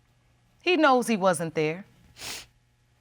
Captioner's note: sniffles